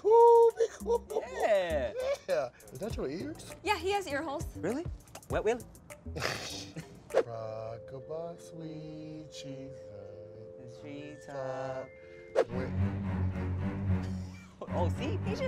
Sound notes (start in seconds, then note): 4.6 laughs; 11.0 sinister music